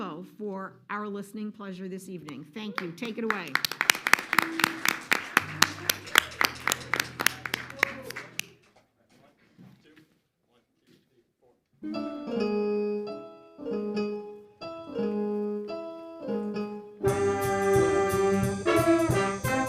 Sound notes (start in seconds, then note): 2.7 audience applauding; 11.8 musical instruments tuning up; 17.2 jazz music